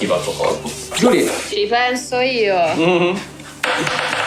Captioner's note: laughs